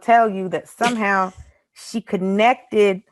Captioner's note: Desi laughs